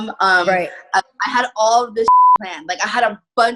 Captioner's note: beep